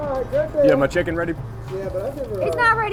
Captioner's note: voiceover